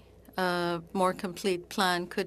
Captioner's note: speaking French